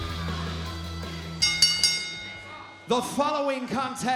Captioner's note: bell ringing